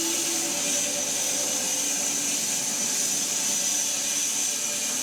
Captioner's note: woodcutting machine hissing